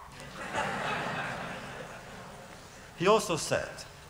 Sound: laughter

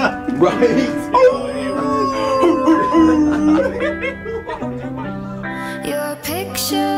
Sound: group laughing; group howling

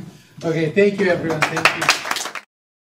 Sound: attendees applauding

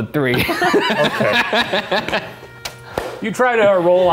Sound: laughing

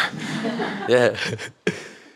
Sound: audience laughs

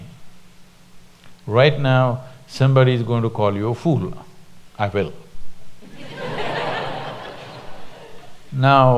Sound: laughter

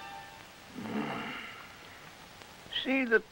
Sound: sigh

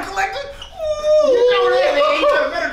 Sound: exclaims

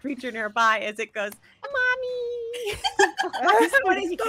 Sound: laugh

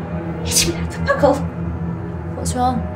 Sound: Bellatrix mumbles

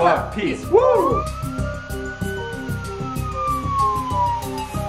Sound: police sirens wail

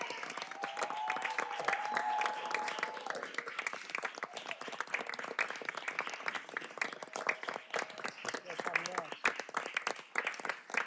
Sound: cheers and applause

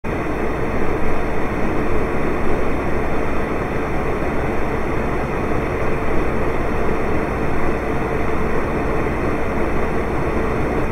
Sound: space heater sounds

